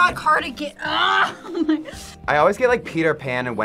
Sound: laughs

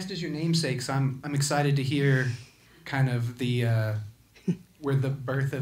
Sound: chuckles

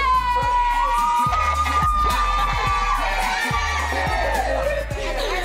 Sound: ladies cheering

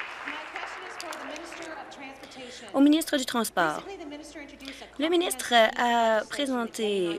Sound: applause

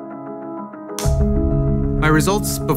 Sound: clapboard snapping

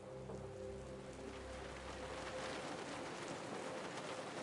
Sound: rain pouring down on car

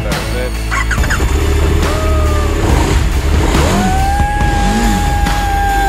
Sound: engine starts, revving engine; cheering, applause

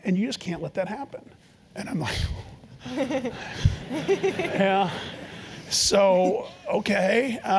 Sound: laugh

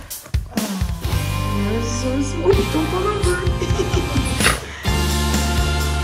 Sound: laughter

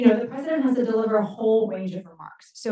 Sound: none

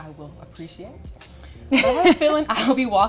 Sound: laughing

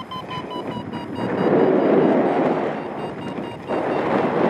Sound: alarm accelerates; strong wind gusts; wind whistling; alarm continues; strong wind gusts

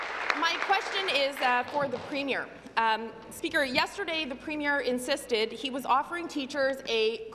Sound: applause

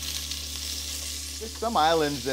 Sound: meat sizzling

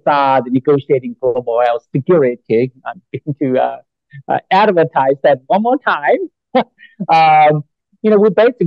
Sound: laughs

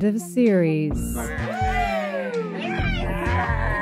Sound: cast cheer!

